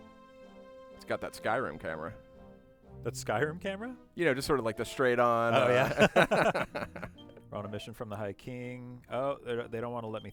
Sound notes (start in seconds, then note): 7.1 light laughter